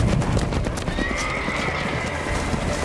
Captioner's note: horse neighing